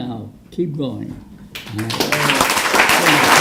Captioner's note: applause